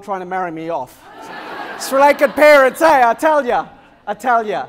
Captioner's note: laughter